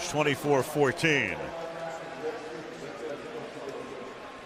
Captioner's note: pa announcement